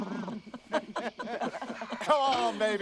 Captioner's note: laughter